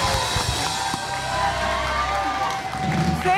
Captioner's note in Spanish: Ovación